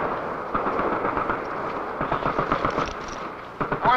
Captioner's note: explosions; gun shots